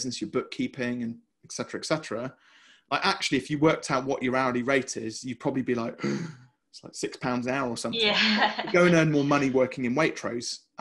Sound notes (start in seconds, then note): 8.0 chuckles